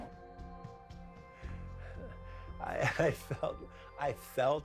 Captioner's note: chuckles softly